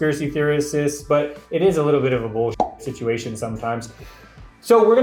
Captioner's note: pop